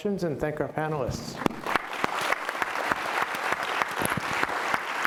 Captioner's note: applause